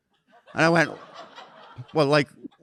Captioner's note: audience laughing